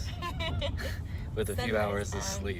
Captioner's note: chuckles